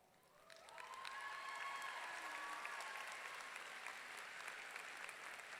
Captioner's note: audience clapping and cheering